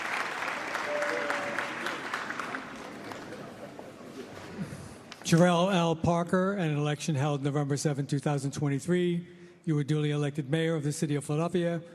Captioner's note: applause